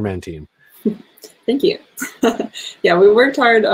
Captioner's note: laughs